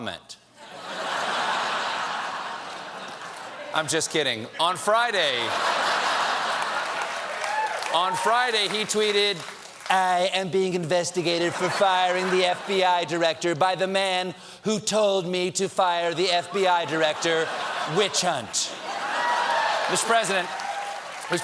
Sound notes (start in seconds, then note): 2.5 laughter; 8.9 laughter